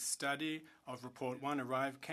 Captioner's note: speaking French